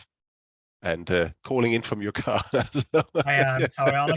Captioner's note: laughs